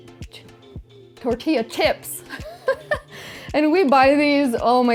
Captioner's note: laughs